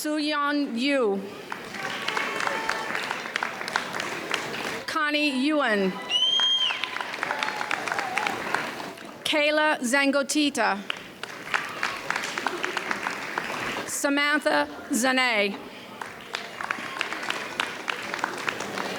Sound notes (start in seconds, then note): 1.3 audience applauds; 5.8 audience cheers; 10.8 audience applauds; 15.9 audience applauds